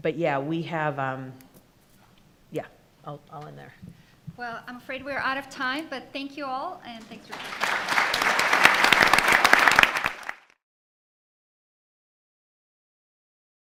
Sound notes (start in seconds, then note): 7.2 attendees applauding